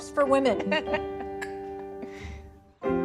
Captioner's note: teacups clink